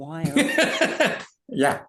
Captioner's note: laughing